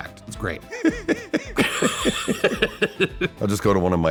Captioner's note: laughter